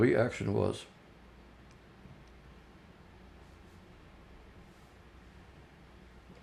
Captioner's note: pauses 8 seconds